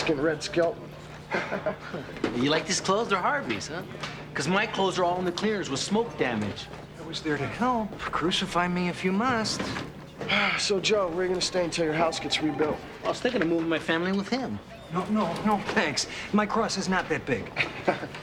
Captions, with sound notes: You look like a Mexican Red Skelton. (Evan chuckling) - You like these clothes? They're Harvey's, huh. 'Cause my clothes are all in the cleaners with smoke damage. - I was there to help. Crucify me if you must. - So, Joe, where are you gonna stay until your house gets rebuilt? - I was thinking of moving my family in with him. - No, no, no thanks. My cross is not that big.